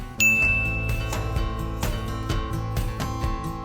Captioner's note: bell dings